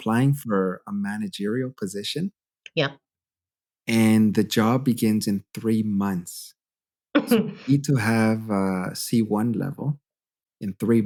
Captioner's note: laughter